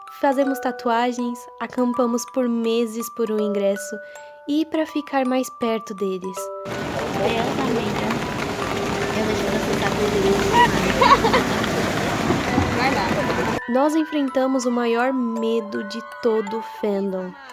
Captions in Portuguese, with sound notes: Fazemos tatuagens Acampamos por meses por um ingresso e pra ficar mais perto deles [Som de chuva] "Meu deus amiga, eu vou te processar por uso de imagem" [risada]"Vai nada" Nós enfrentamos o medo de todo fandom...